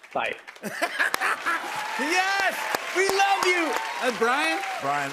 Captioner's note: laughs